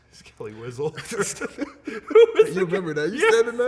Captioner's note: laughing